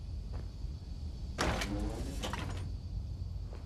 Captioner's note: door open noise